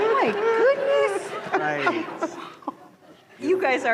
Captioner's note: laughter